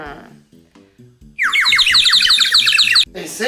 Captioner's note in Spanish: Sonido de pájaros